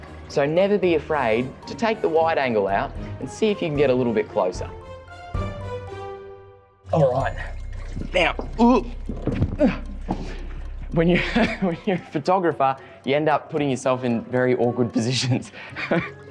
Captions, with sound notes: So never be afraid to take the wide-angle out and see if you can get a little bit closer. Alright now. (Laughs) When you're a photographer, you end up putting yourself in very awkward positions.